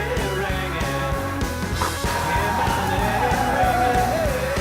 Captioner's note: tires squeal